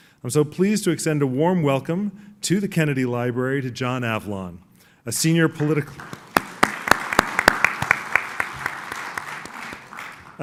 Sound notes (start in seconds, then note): 5.5 applause